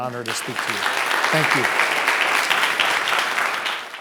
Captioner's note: audience applauding